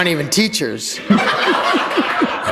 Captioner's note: laughter